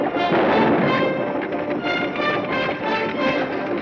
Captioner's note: gun fires